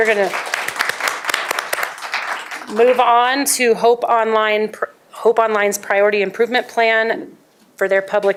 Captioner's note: applause